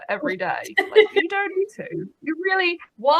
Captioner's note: laughs